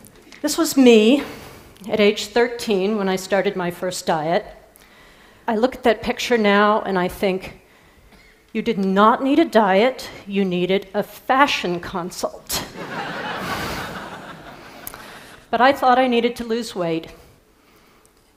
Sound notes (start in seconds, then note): 12.7 Risadas